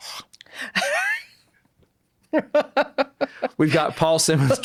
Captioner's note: laughing